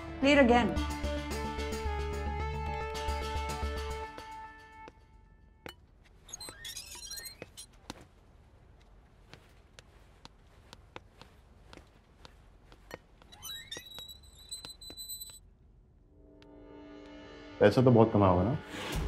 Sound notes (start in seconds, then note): 6.3 Door opens; 13.4 Door closes